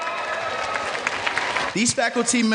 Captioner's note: clapping